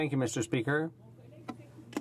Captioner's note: speaking French